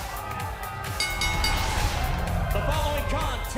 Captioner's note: bell